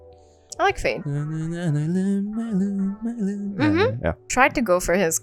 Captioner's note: hums Fade